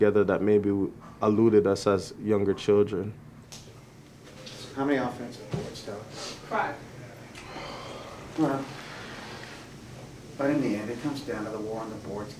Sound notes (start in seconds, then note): 7.3 sigh